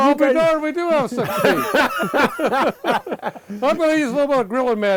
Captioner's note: laughing